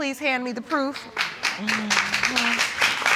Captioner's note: audience applauding